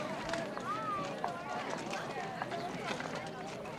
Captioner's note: crowd chatting